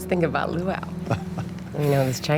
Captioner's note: Tommy laughing; laughs